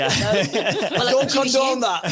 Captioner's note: everyone laughs